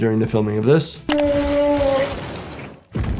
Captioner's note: liquid squirting; whale moaning; body thumping